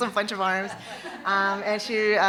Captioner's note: audience laughing